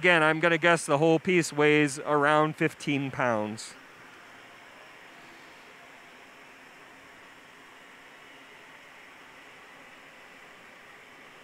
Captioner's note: pause